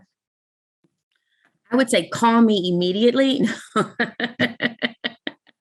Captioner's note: laughs